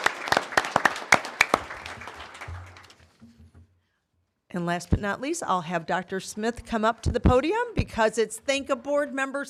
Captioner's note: applause